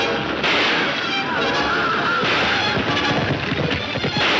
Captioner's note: gunshots banging